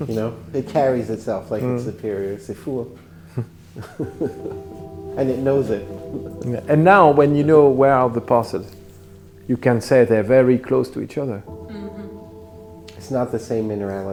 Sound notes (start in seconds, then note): 3.8 laughing